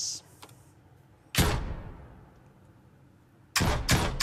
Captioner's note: gunshots